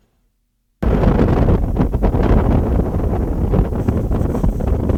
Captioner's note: air whooshing